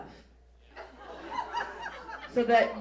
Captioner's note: audience laughs